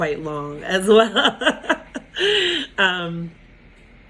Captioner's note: laughs